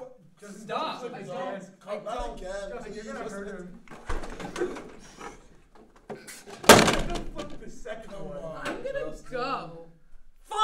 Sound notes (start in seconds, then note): 3.8 chair flips